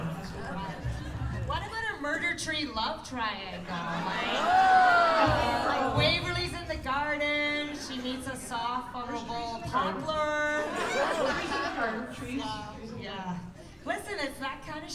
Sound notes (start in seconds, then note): 4.0 cheers; 10.6 laughter